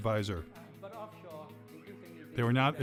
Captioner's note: man speaking in background